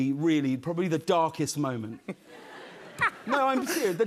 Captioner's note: laughter